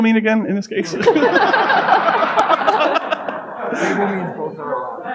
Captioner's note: audience laughing